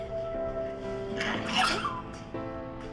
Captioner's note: crying